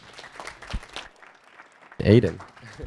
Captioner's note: audience applauding